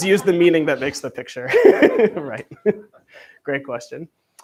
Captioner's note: laughs